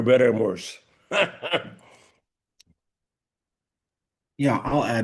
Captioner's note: laughing